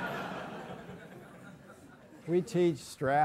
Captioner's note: laugh